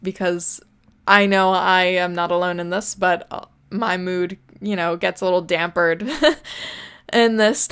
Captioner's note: laughs